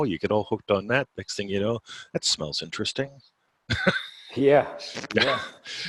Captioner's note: laughing